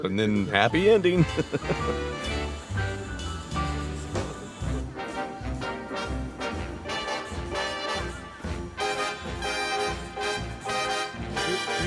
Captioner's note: laughing